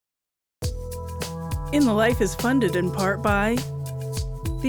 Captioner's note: announcer, over music